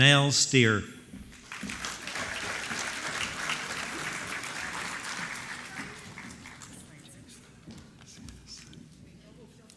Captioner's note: applause